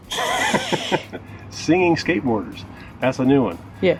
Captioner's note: laughs